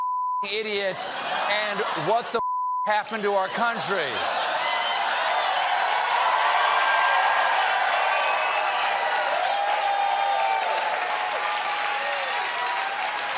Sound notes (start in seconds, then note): 5.4 laughter; 7.2 cheers and applause